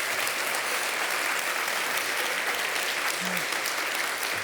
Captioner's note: audience applauding